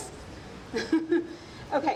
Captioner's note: laughing